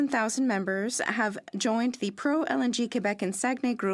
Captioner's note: speaking French